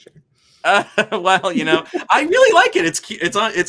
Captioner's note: laughs